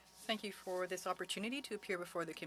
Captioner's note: speaking French